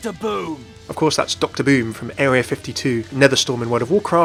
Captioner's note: voiceover